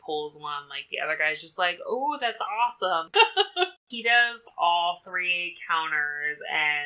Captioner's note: laughs